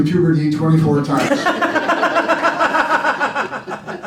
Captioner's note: laughing